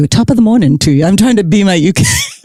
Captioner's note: busts out laughing